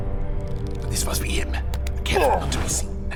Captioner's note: sounds of creaking vines and grunting